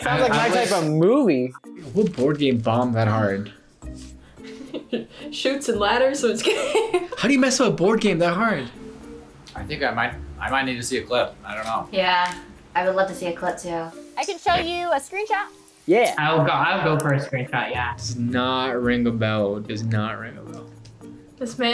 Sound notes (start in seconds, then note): 4.4 laughs